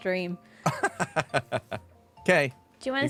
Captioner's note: laughs